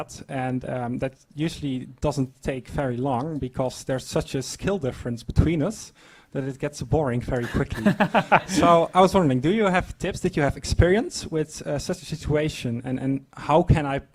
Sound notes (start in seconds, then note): 7.4 laugh